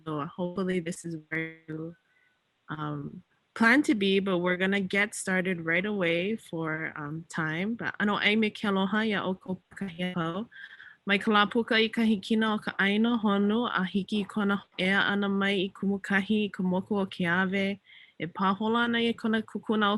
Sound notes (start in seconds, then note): 9.0 talks in native language